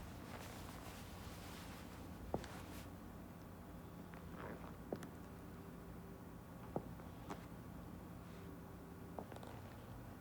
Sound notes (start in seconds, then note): 0.9 footsteps tapping